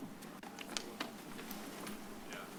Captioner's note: rustles